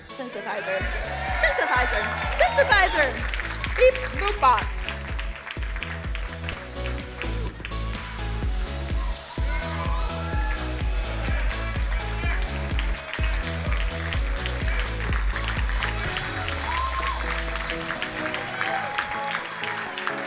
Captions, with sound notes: synthesizer, synthesizer, synthesizer. Beep, boop, bap. (bright music) (crowd cheering and applauding)